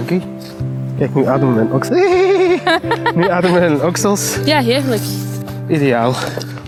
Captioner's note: laughs